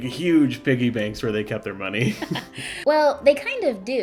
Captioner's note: laughing